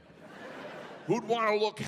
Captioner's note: audience laughing